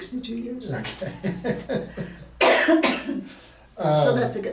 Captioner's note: laughing